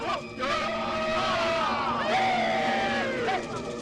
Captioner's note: men shouting, whooping